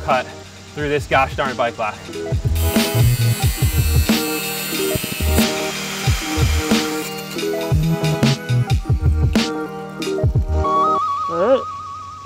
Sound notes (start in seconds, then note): 4.6 angle grinding; 9.0 house music